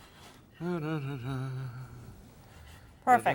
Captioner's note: humming